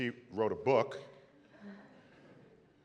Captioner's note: laughter